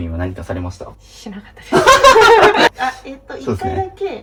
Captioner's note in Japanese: 笑い